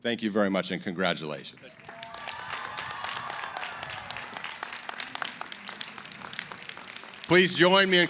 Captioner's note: cheering & applause